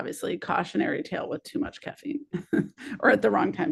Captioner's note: chuckles